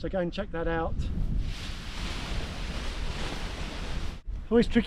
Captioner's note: paraglider rustling